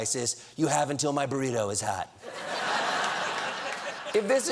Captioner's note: laughter